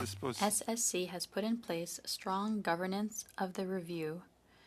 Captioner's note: speaking French